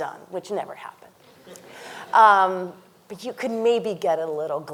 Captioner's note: panelist chuckles